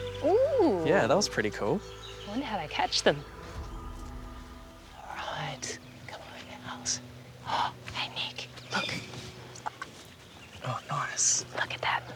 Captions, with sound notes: Ooh! Yeah, that was pretty cool. I wonder how they catch them. Alright. Come on, owls. (GASPS) Hey, Nick, look! Oh, nice. Look at that.